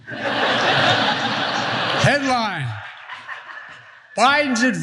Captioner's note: laugh